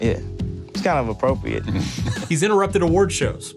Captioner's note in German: lacht